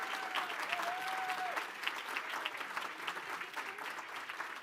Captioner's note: applause